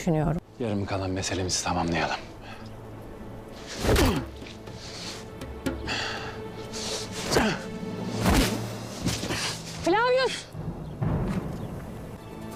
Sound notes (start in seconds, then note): 3.7 fighting sounds